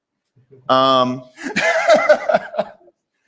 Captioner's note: laughter